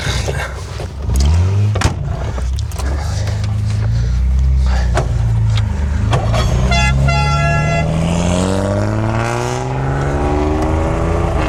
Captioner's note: engine revving